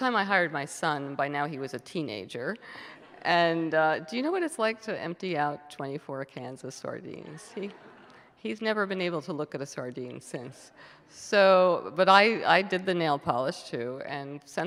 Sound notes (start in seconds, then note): 2.9 audience members laugh